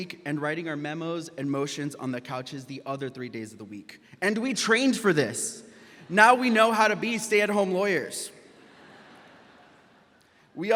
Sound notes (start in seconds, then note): 6.0 audience laughs; 8.5 audience laughs